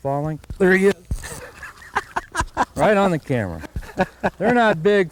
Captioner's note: laughter